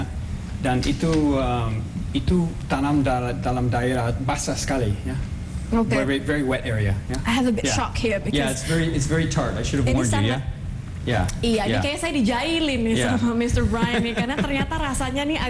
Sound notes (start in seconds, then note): 12.5 non-english speech